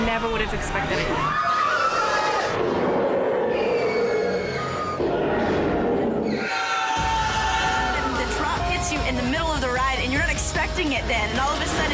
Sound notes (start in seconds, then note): 8.6 screams and growls